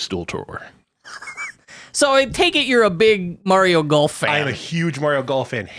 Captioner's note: laughs